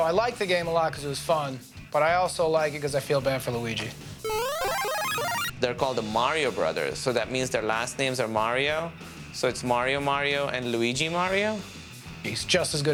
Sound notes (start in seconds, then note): 4.2 arcade sounds